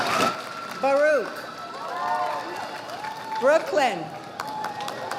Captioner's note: audience applauding